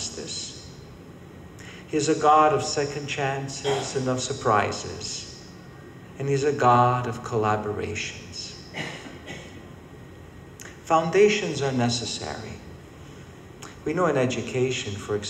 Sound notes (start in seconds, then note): 7.1 coughing